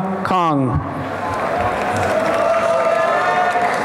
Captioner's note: applause and cheering